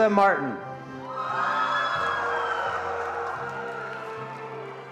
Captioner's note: attendees applauding